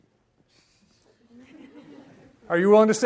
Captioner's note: audience laughs